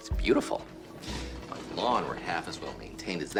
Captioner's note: feet shuffling